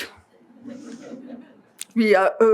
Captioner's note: laughing